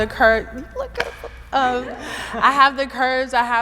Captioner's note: everyone laughing